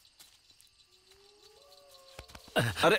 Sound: dogs howling

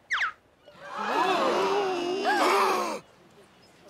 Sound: gasping

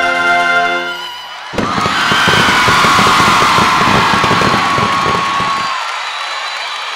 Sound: students cheering; fireworks explodes

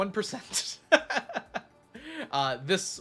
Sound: laughs

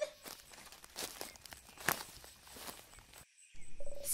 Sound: footsteps

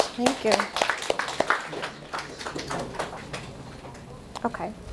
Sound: audience applause

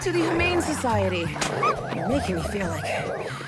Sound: dog whimpers

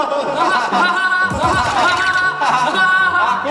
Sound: hahahaha

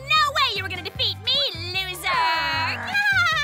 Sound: giggles

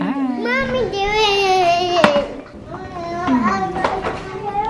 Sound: child babbling

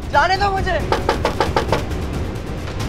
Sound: knocking on door

